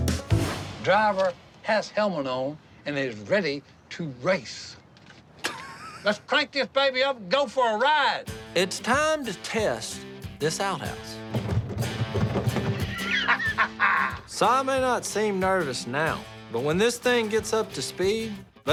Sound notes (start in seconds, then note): 5.4 laughing; 11.2 banging; 12.7 laughing